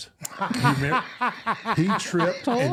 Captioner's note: laughing